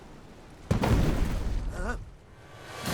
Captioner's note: thud